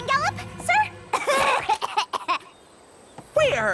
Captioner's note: coughing